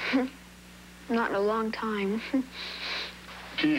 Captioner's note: giggles